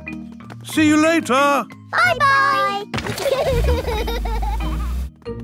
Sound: laughter

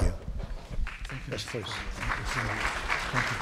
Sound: applause

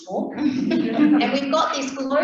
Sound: laughing

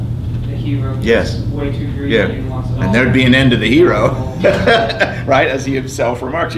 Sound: laughs

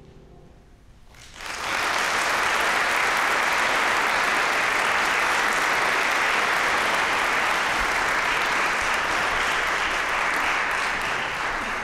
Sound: applause

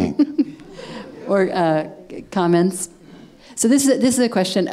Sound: laughing

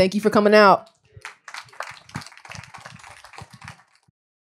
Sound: applause

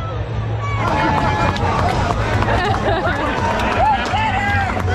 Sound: fans cheering

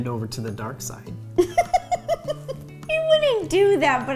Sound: laughing

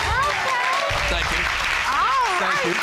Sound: audience cheering

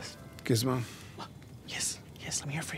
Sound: whispering

